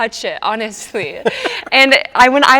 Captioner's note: both chuckling